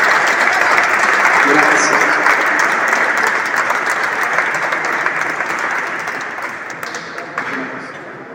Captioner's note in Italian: Applauso